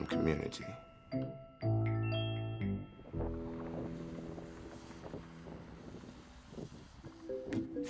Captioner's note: gentle bright music fades; wind howling; gentle bright music